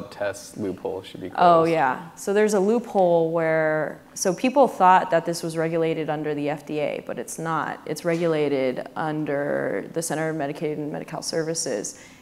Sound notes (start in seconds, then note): none